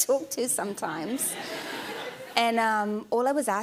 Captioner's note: laughter